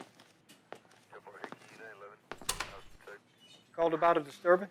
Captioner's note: police radio chatters